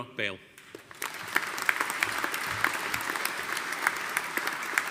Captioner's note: audience applauding